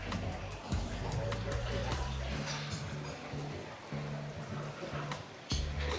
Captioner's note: people chattering